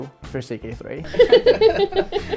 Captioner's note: laughs